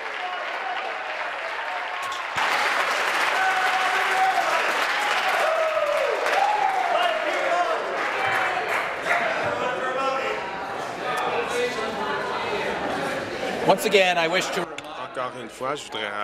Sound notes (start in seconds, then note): 0.0 applause; 2.4 cheering